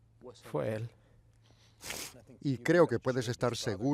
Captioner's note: sniffles